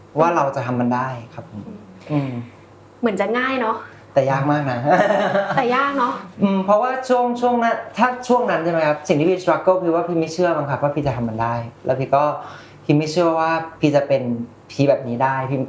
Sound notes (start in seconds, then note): 4.9 laughs